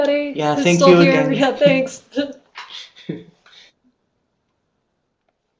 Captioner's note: speakers laughing